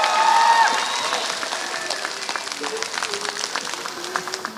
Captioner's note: applause